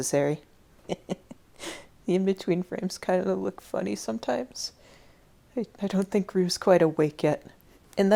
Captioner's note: laughing